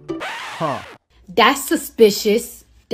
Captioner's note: record scratches